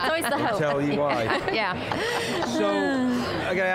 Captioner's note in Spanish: Risas